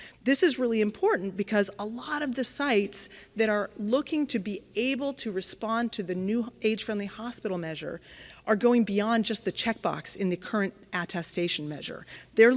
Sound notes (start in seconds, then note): none